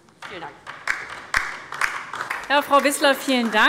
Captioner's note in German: Beifall DIE LINKE